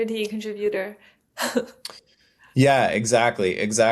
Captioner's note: laughs